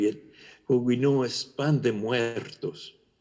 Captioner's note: spanish